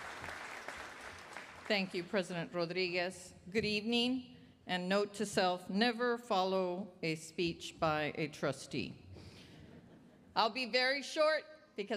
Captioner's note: applause